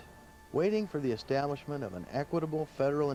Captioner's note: voiceover